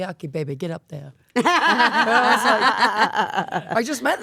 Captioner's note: Stephanie and Elyse laughing